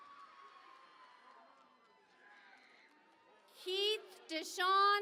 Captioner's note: cheering and Applause